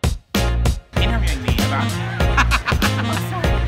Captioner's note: laughs loudly